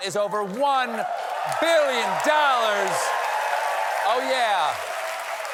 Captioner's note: cheers and applause